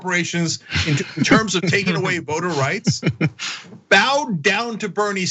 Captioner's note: laugh